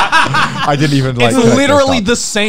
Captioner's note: all laugh